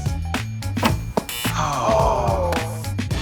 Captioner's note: upbeat music; buzzing